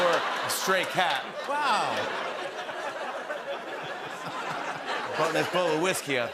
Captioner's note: laughter